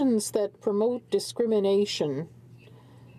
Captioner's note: speaking French